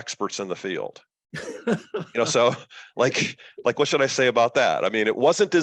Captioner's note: laughter